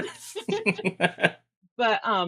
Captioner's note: both laughing